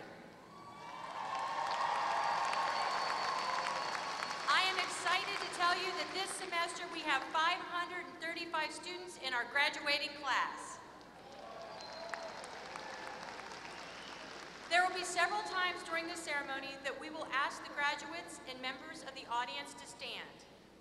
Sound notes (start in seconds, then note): 0.7 applause; 11.0 applause